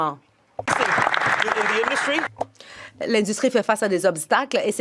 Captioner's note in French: voix de l'interprète